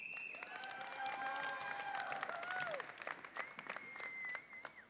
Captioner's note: audience applauds and cheers